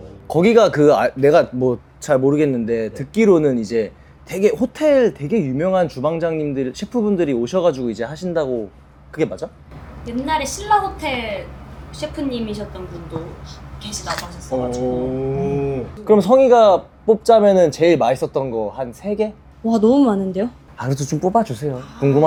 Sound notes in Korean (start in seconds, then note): none